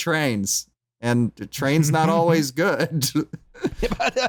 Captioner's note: laughs; chuckles